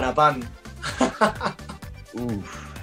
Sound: laughs

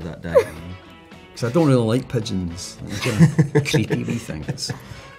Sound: laughs

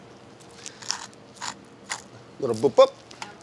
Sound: pepper mill cracking

